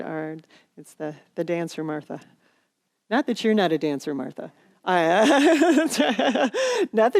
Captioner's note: laughter